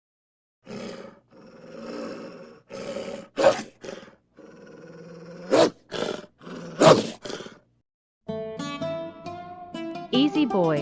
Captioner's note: growling